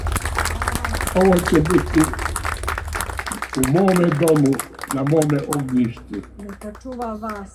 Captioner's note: applause